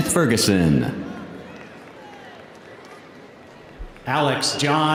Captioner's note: audience applauding